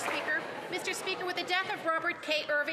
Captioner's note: applause